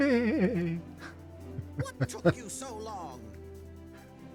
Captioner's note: laughs